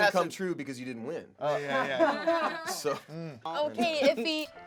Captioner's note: laughing